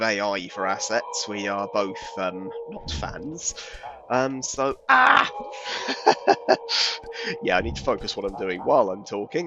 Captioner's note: chuckles